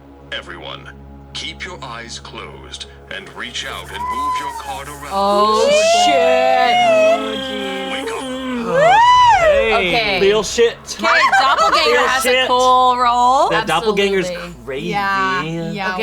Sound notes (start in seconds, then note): 8.8 cheering